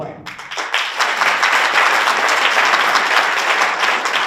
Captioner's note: audience applauds